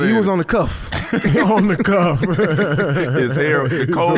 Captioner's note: laughing